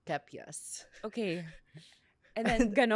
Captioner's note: laughs